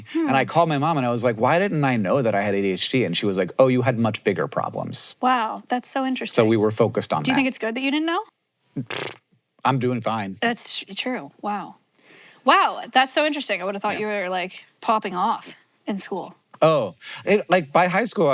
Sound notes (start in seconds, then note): 8.8 blows raspberry